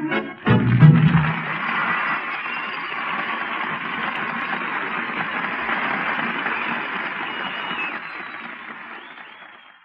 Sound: audience Cheering and Applause

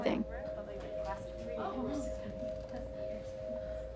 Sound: overlapping quiet chatter

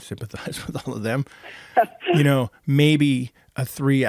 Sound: laughing

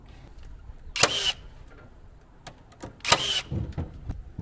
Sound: machine drilling

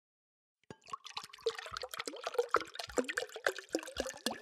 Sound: water gurgling

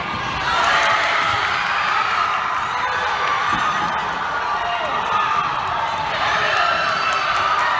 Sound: crowd and players cheering; applause

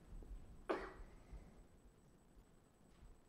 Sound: cough

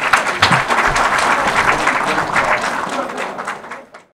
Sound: audience applause

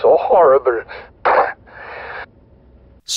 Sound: coughs

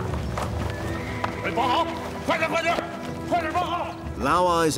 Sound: man shouting in foreign language

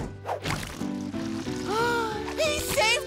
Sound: gasping

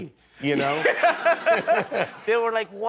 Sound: laughter

